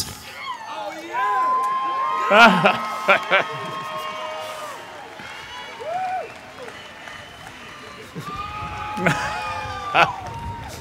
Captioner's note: more laughter and cheers